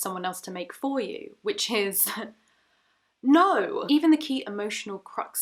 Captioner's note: chuckling